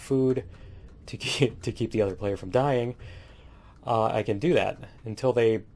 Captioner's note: laughs